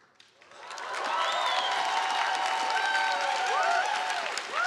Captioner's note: audience applauding